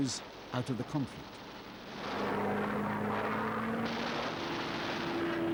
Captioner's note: humming, vibrations, explosions